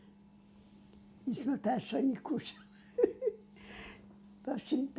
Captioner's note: laughing